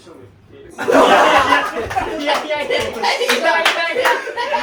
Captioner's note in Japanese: 笑い